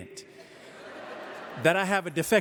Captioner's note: audience laughing